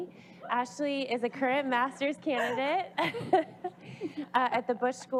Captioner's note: laughing